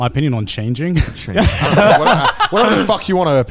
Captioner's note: all laughing